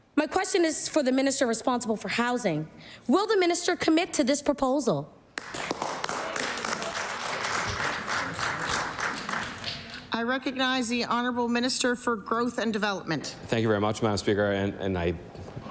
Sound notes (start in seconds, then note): 7.7 applause